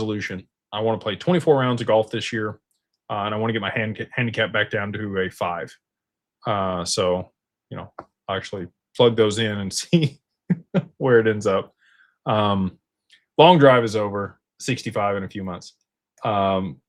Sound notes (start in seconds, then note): 10.5 laughter